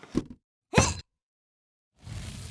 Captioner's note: grunts